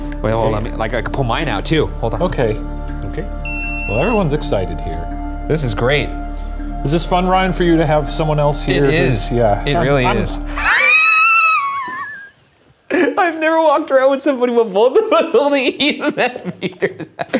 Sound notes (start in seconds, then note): 3.4 machine beeping; 9.5 chuckling